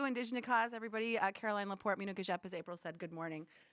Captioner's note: speaking foreign language